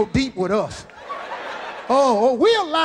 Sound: audience laughing

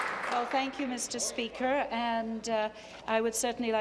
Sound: applause

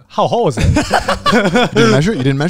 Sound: everyone laughs

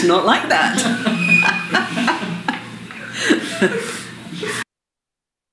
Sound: laughter

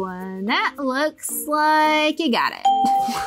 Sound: bell rings

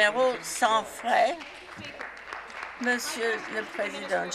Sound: some Applause

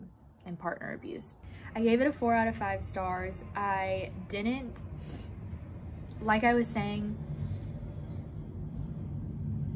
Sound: airplane flying over

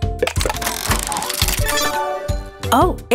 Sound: tile clicking; bells chiming

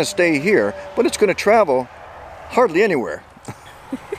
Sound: chuckles

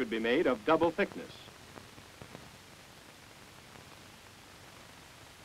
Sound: silence

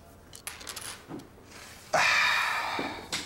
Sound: die clatters; sighs

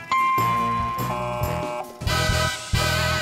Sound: dings; buzzes; big band jazz music

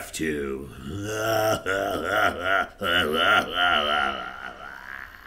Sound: Buddy laughs

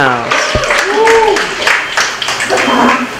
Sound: applause

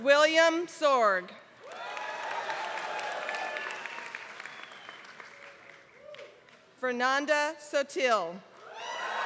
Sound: applause; applause

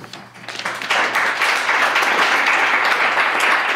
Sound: clapping

